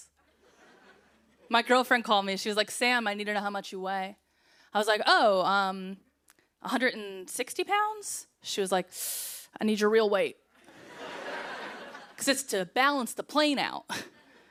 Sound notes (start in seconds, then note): 10.6 laughter